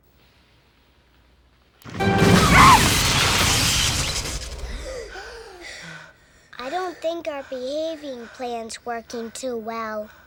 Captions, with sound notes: [SPARKS] [ALL GASP] I don't think our behaving plan's working too well.